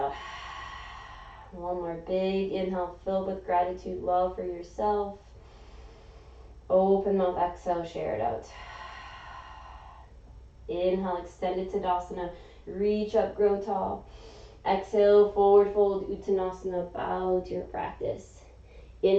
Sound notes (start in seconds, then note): 0.0 exhaling; 5.4 inhaling; 8.5 exhaling; 13.9 inhaling